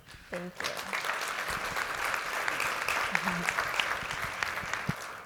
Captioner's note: audience applauds